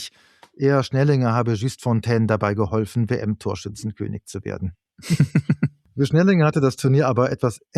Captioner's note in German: gelächter